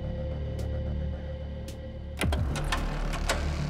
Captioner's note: projector clunks